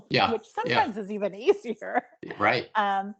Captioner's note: giggling